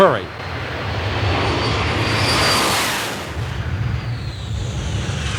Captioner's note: cars whoosh past